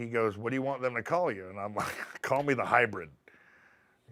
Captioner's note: laugh